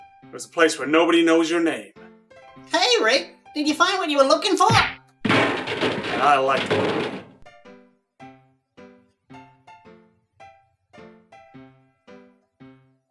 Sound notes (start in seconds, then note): 4.7 smack; 5.2 trash cans banging